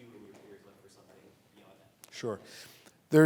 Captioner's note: voice muffled